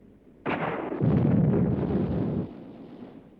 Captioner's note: explosions